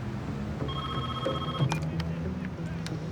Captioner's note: ringing continues